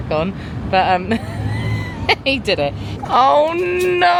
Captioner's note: laughs